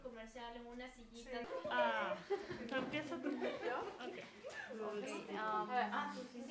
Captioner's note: laughing. Doing a group activity together